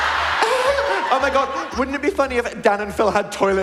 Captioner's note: audience laughing